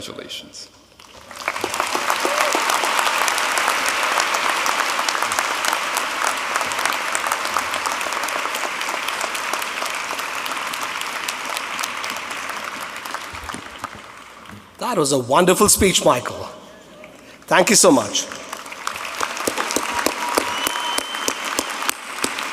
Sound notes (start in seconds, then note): 4.7 applause